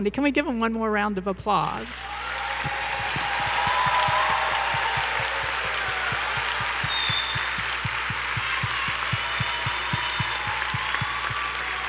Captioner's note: applause